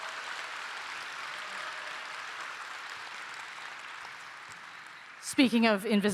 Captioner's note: applause